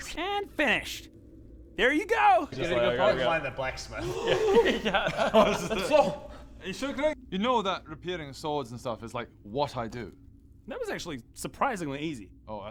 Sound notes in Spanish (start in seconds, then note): 4.0 Bocanada de aire